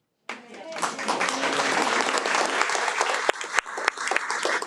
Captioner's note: audience applauds